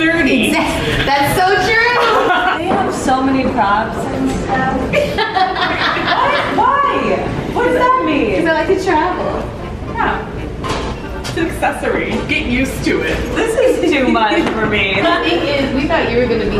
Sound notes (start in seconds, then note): 0.7 laughing; 5.2 laughing